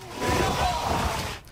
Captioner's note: nats: hail hitting roof of dugout